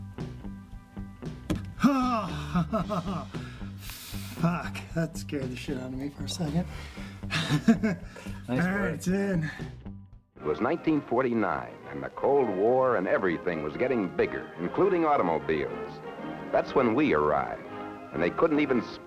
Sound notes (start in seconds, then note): 1.4 cord thuds; 1.8 chuckling